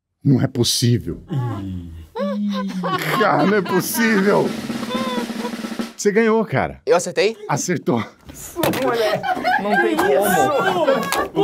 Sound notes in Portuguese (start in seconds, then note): 2.2 risadas; 4.5 rufar de tambores; 8.8 risadas